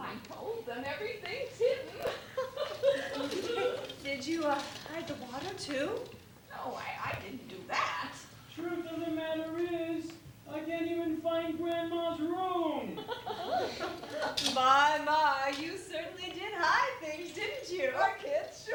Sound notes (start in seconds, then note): 1.7 laughter